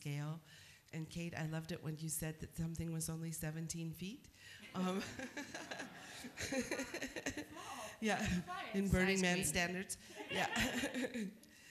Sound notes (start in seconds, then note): 4.8 laughter